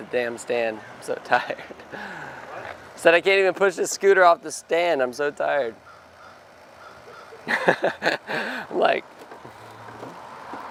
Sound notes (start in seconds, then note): 0.0 laughing; 7.2 laughs